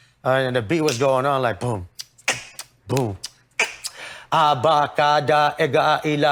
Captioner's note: imitates beat; rapping in foreign language